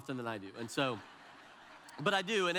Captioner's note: audience laughs